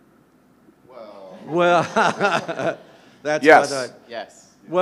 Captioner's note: everyone laughing